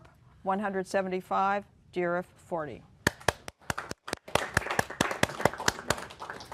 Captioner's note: applause